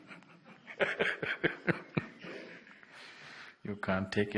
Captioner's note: laughs